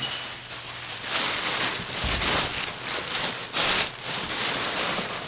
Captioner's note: paper crumpling